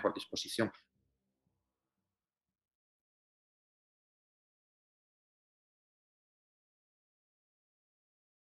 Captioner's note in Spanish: silencio